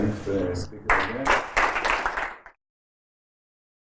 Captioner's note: applause